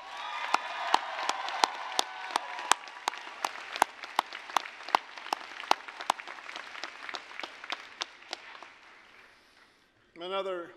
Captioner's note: applause, cheering